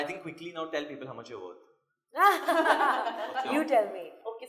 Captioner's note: laughs